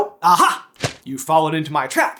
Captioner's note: thwap!